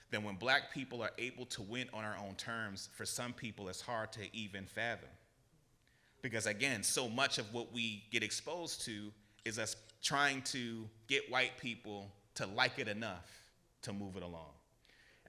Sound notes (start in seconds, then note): none